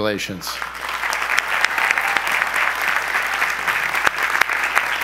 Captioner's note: audience applause